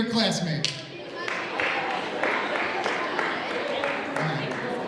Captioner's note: audience applauds